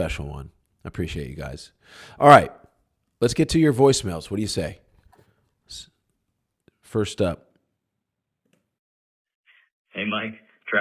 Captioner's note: voicemail playback